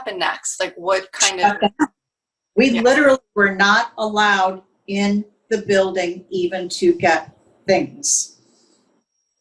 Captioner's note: laughs